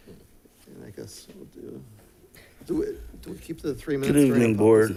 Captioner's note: speaking faintly